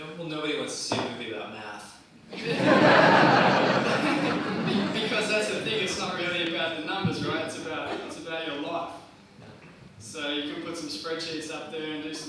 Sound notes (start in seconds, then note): 2.3 audience laughs